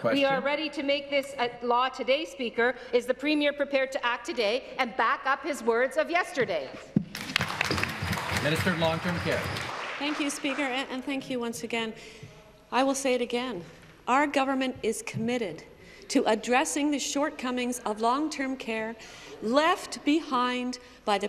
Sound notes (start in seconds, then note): 11.8 applause